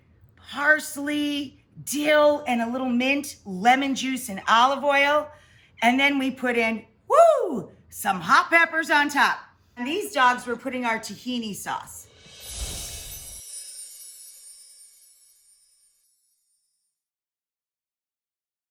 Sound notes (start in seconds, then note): 12.4 soft chiming